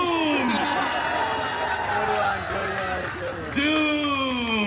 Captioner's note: guests applauding, cheering and laughing